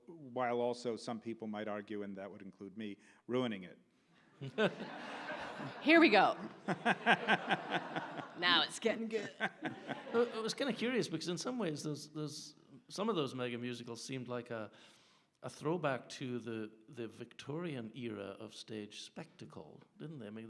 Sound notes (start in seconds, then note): 4.4 audience laughs